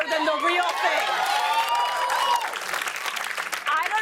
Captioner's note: cheers and applause